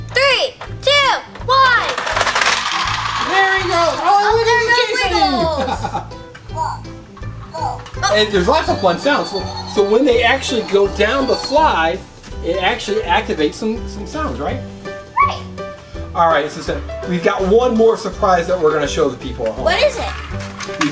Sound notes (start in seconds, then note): 5.1 laughs; 7.5 toy beeping